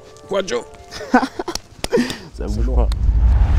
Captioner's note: laughs